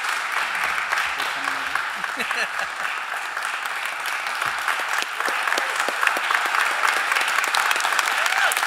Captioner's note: applause